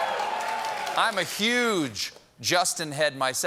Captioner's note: cheering